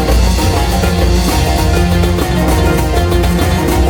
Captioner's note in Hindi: तालियां